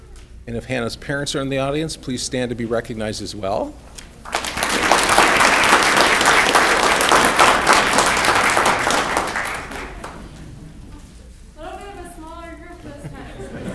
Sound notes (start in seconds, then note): 3.9 audience clapping